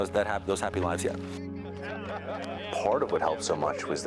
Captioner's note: crowd chatters